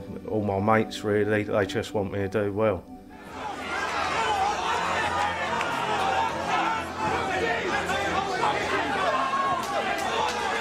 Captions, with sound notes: All my mates, really, they just want me to do well. (crowd shouting)